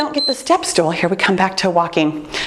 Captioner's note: timer beeps